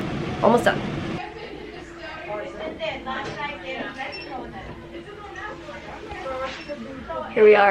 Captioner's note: background chatter